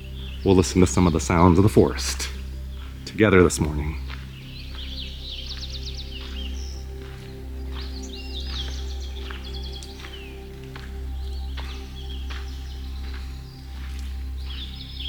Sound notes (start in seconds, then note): 4.3 birds chirping